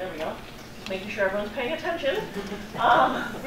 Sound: chuckles

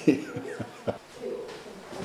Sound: chuckles

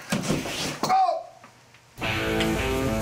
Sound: thud; Kenny grunts

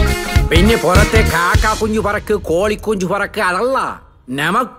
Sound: imitating Malayali accent

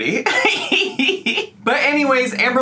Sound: laughing

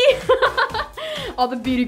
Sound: laughs

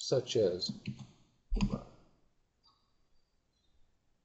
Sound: silence

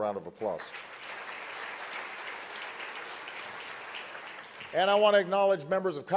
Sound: applause

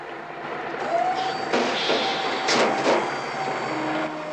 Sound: engine whirring

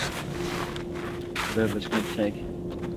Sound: snow squelching

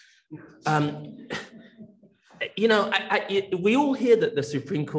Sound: attendee laughs

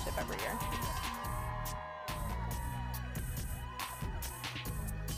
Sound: cheering

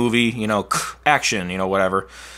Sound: mouth clacking

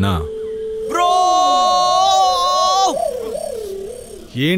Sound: screams

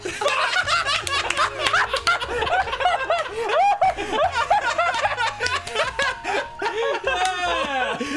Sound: hysterical Laughter

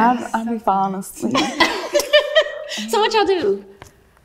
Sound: all laugh

